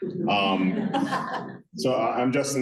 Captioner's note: laughter